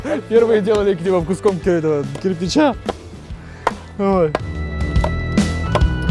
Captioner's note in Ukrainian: смеется